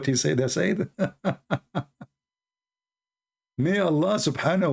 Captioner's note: Ketawa